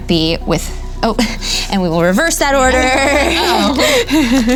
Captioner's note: nervous laughing